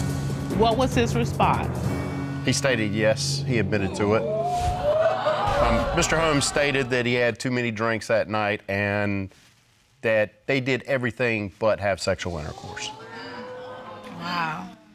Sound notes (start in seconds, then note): 3.8 audience exclaiming; 12.3 audience exclaiming